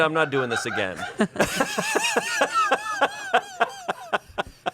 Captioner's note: everyone laughs